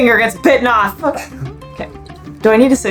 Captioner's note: laughs in background